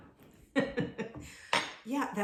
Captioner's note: woman chuckling